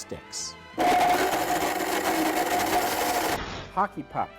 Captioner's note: blender grinds